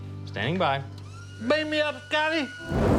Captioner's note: table whirring